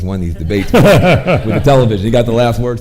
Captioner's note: chuckles